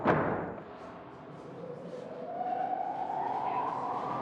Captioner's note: fan accelerating